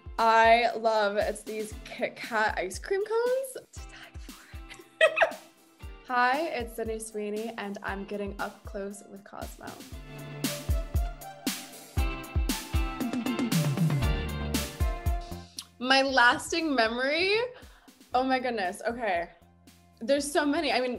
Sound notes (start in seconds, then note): 4.7 laughing; 10.1 bright upbeat music